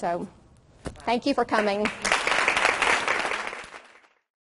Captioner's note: audience claps